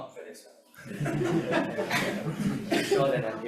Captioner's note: audience laughing